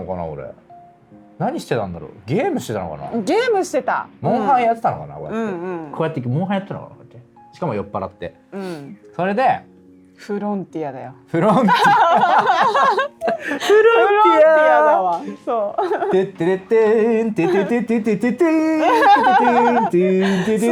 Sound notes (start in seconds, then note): 6.8 laughs; 18.4 laughs